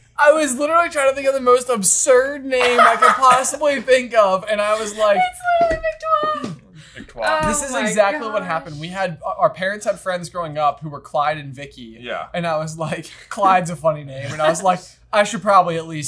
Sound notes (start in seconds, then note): 6.8 laughing